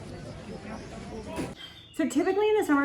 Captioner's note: birds chirping